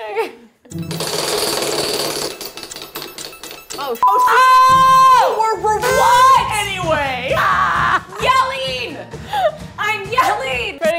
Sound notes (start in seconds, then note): 5.5 yelling